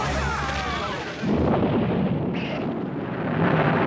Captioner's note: explosion